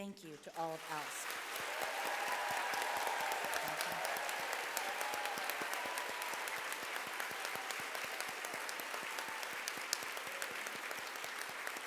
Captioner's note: applause